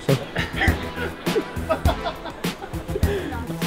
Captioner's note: laughing